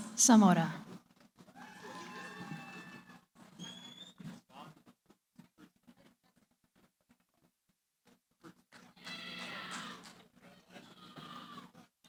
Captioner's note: cheering